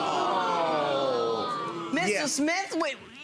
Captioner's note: audience groaning